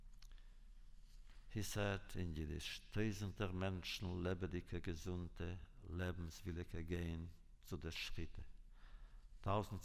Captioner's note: Yiddish